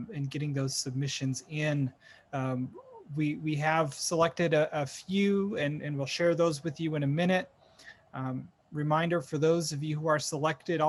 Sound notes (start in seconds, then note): none